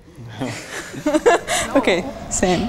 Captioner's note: everyone laughing